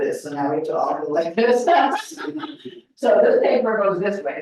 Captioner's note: laughs